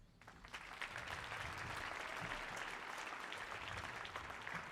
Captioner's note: audience applauding